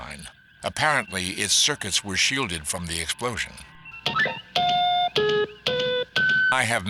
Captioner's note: computer Beeps!